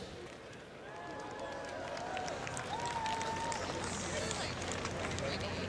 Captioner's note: cheering and applause